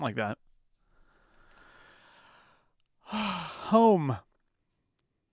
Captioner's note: sighs